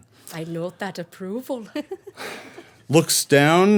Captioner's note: laughing